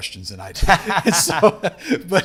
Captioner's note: chuckles; laughing